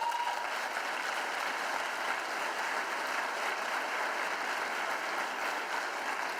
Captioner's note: applause